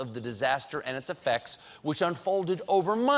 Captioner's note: none